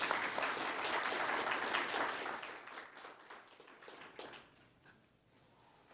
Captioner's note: applause